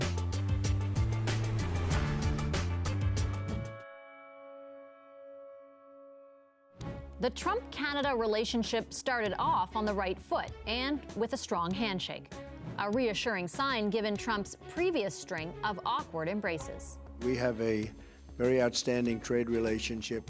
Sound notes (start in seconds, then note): 5.9 bell tolls